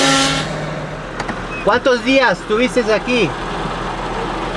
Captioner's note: in Spanish